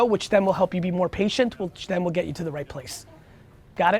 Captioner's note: none